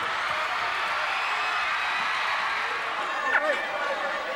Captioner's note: audience cheers